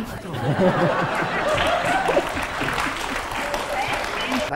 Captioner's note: laughing and applause